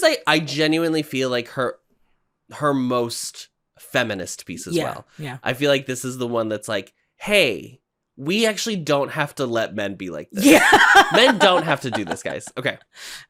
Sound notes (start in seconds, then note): 10.4 laughs